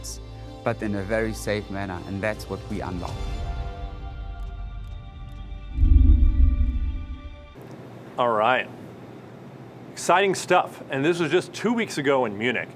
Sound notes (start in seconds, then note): 5.7 whooshing sound